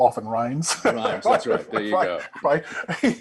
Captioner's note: both chuckling